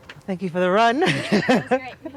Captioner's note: laughing